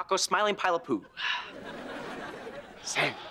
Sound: laughing

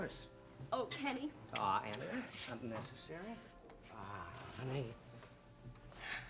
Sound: kiss

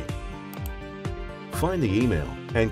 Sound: mouse clicks

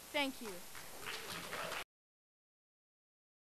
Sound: applause

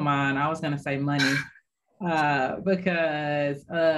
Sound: giggle

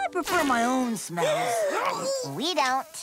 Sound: farting; gasping

